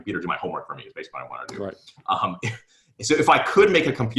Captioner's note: giggles